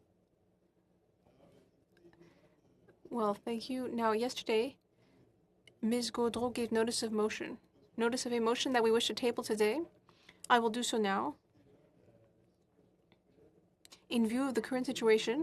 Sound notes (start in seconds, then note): 7.0 speaking in French